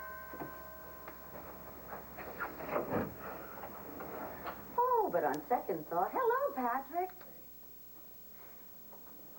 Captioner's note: rings